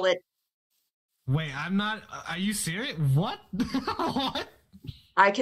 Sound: laughs

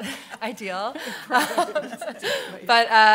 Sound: laughter

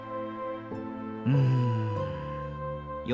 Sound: sigh

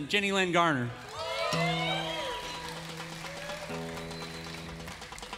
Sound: crowd cheering

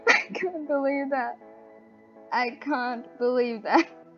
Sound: laughs

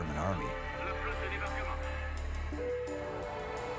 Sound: french dialogue

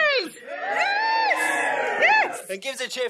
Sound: audience cheers

